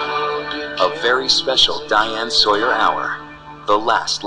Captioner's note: voiceover